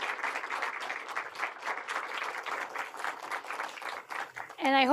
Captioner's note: applause